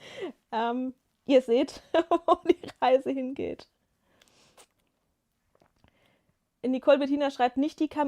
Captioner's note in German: gelächter